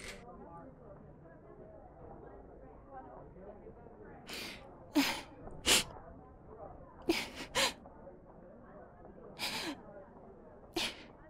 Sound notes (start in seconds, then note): 4.9 Fatima crying